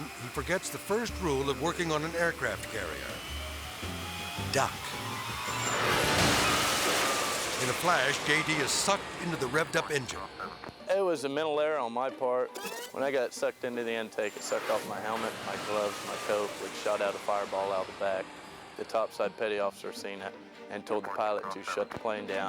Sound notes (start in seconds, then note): 3.1 engine whirring; 4.3 jet engine whooshes